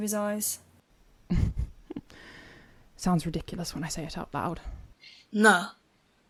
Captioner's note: Regulus laughs dryly